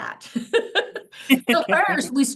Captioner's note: both laughing